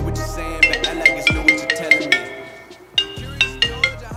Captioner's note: phone ringing